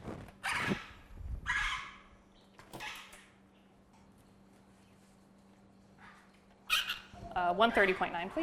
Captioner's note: birds chirping